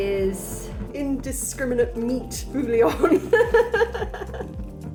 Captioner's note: laughing